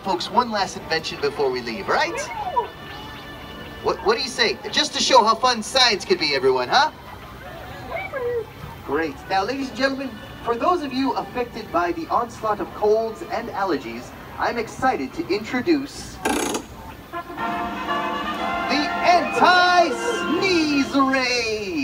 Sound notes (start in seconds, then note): 16.2 crank noises; 17.0 fanfare music